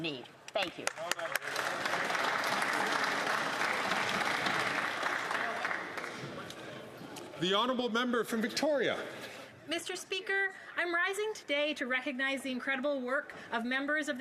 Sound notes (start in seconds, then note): 3.8 some Applause